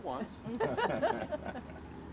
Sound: laughter

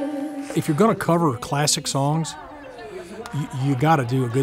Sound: voiceover

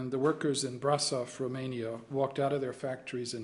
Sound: in arabic

